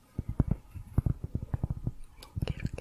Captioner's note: tapping on cork